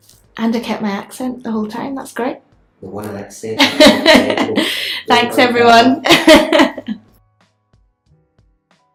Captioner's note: laughs